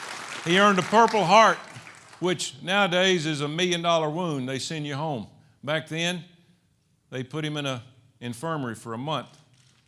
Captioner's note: applause